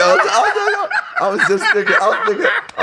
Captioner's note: laughing